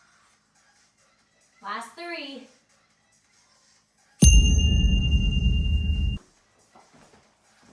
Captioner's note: ding